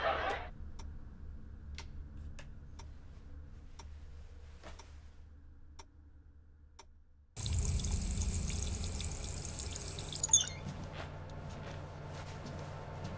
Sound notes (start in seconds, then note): 0.3 TV turns off; 7.4 running water